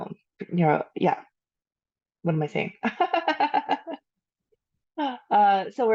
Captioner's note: laughing